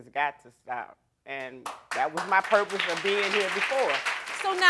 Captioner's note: audience applauding